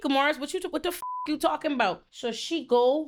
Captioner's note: beep